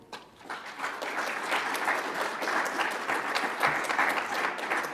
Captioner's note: audience applauds